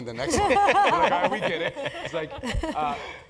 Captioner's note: laugh